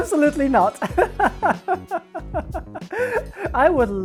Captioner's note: nervous laugh